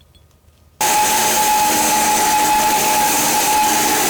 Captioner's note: saw whirring